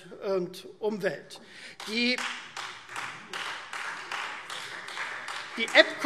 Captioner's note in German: Beifall Freie Demokraten